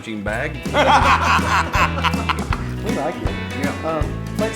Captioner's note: laughing